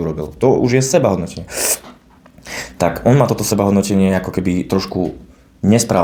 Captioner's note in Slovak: smrkanie